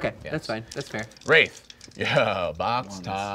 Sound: laughing

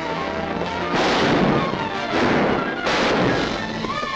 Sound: guns firing

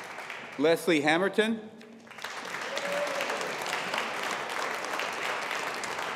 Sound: audience applauding

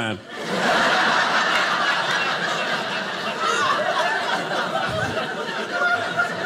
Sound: audience laughing

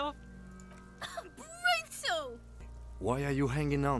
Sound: laughs

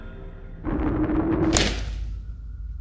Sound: thud

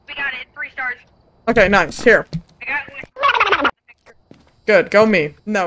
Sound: over Radio; over Radio

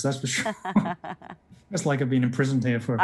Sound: laughing

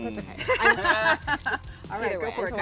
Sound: laughs

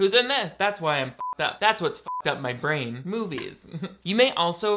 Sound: beep

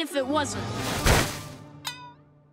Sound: thudding

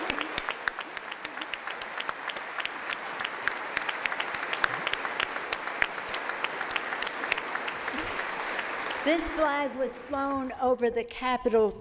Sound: applause

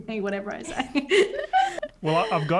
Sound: all laugh

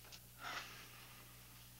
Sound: sighs

